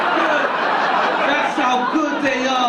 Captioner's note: audience laughing